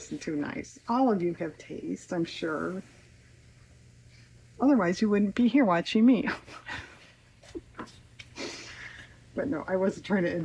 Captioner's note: laughs